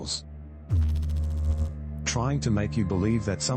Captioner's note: electrical noise